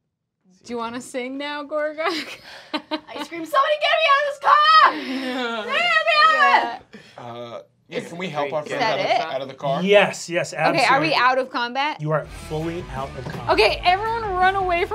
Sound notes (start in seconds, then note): 2.3 laughing; 4.6 laughing; 5.6 shouts